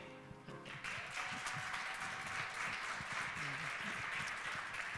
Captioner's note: audience applauding